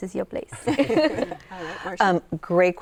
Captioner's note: laughter